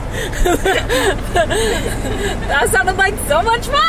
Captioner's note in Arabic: الناس يضحكون